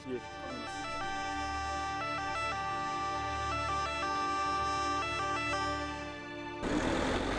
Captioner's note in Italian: sirena ambulanza